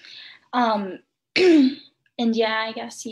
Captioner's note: clears throat